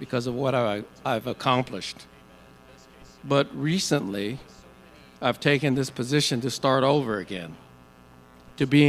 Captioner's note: none